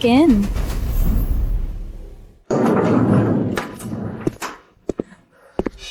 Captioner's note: gunshots